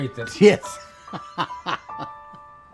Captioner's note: laughing